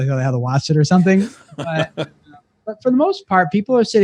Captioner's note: laughs